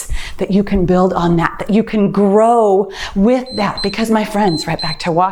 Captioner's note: timer beeps